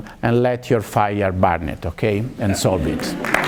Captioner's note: appluase